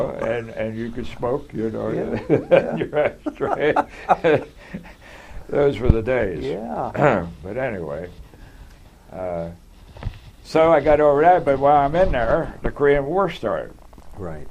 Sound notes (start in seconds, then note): 2.0 laughter